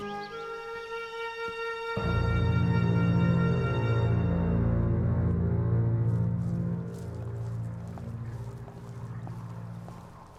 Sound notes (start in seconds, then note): 6.9 footsteps